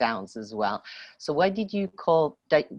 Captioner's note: speaking French